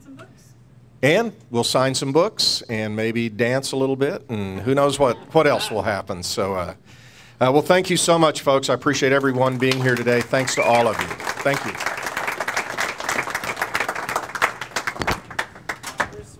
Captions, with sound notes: - Sign some books. - And we'll sign some books, and maybe dance a little bit, and who knows what else will happen. Well, thank you so much, folks. I appreciate everyone being here today. Thanks to all of you, thank you. (audience applauding)